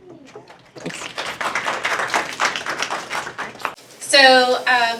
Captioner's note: applause